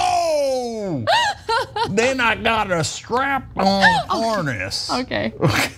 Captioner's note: laugh